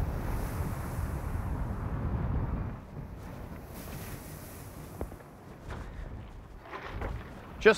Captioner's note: waves softly crashing